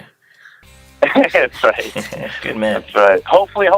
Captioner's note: laughing